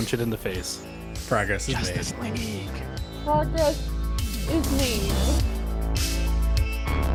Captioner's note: whispers